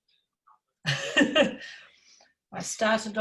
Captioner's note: laughs